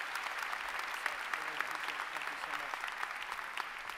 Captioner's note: applause